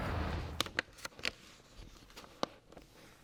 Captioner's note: exhales